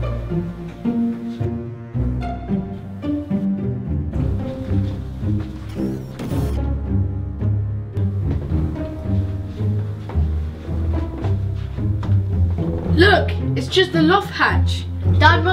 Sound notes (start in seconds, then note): 5.6 whirring